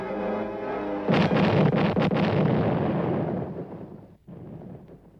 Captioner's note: explosions